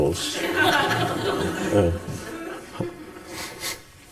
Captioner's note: audience laughs